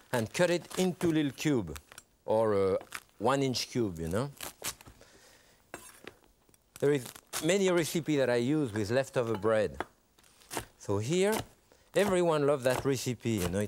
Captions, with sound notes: and cut it into little cube, or one inch cube, you know? (bread crunching) There is many recipe that I use with leftover bread. So here, everyone loves that recipe.